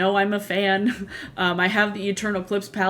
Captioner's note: laughs